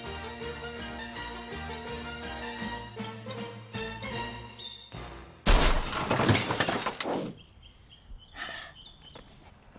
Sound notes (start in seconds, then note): 5.4 crashing sound